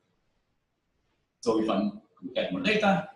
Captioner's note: pause